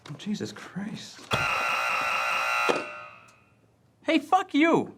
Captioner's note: buzzing many times